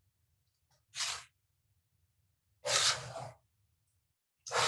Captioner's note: scraping dough